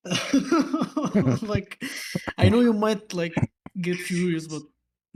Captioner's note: clears throat and laughter